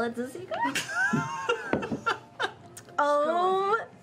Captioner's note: laughing